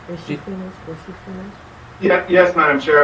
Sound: woman speaking faintly

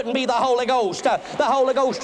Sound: applause

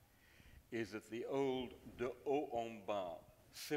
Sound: speaks in foreign language

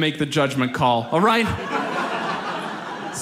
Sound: audience laughs

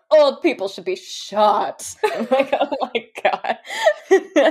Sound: laughing

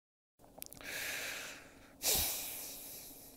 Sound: sighs

